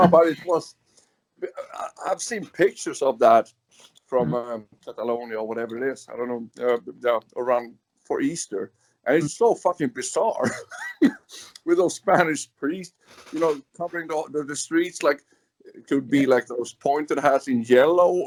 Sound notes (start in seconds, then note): 9.1 laughs